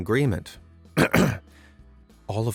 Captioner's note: clears throat